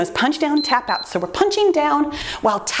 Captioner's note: timer beeps